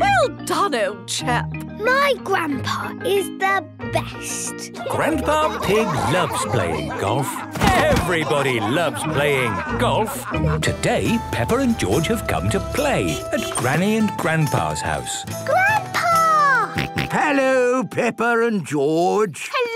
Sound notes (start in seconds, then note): 4.7 laughing; 10.4 all laughing; 16.0 George snorts